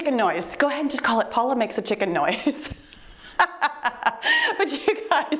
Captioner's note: chuckles